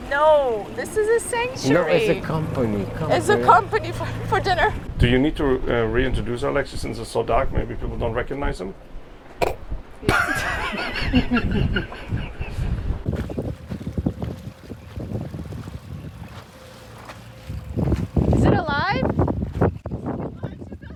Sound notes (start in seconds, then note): 10.0 all laughing; 13.4 wind rustling